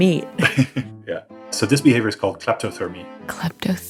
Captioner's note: laughs